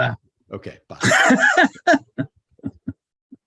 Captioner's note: laughing